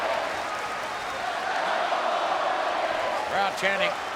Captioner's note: crowd clamoring; claps rhythmically